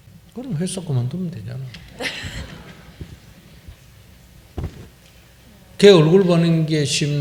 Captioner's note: questioner Laughter